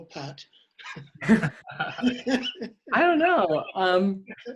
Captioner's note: laughs